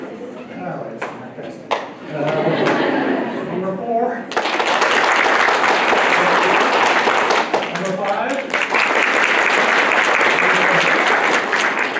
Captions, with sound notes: That was fantastic. [LAUGHTER] Number four. [APPLAUSE] Number five. [APPLAUSE]